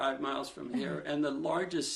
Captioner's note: laughs